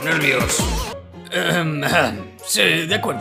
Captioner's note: clears throat